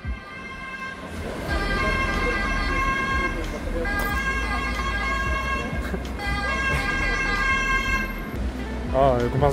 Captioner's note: police sirens